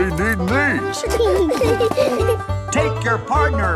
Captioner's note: laughing